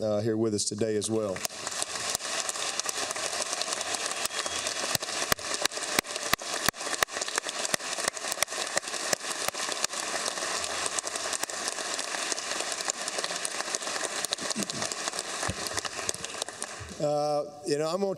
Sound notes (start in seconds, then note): 3.0 applause